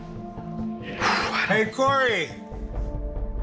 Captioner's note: exhales